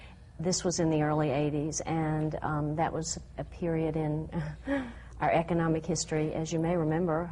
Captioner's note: laughs